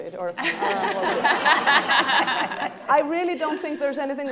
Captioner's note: laughing